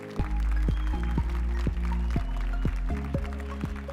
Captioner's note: applause and cheers